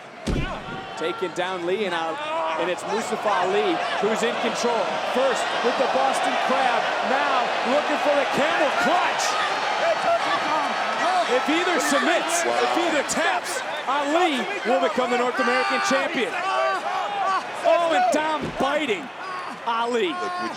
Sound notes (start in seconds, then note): 16.2 Dom yells